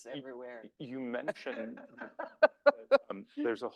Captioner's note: laughs